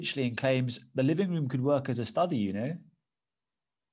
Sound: london accent

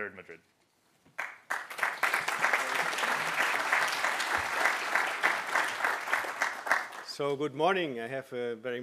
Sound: applause

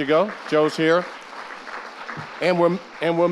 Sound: audience applauding

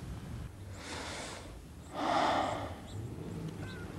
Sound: heavy breathing

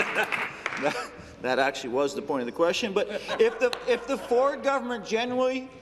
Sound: applause

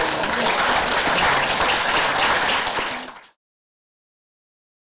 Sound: audience applause

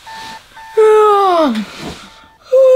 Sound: yawn

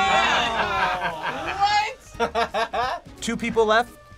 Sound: group laughs

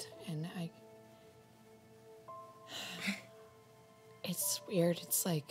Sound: sighs

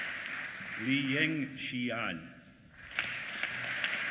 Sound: applause

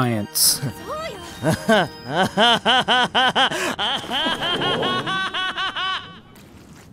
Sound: Saitama laughing maniacally

